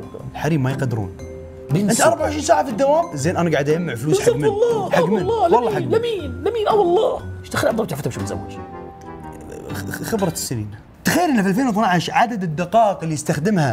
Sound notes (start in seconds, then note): 1.5 mocking; 9.8 stutters